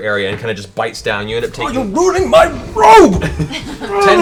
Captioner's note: grunts; laughing